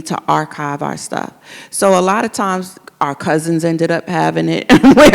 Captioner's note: laughs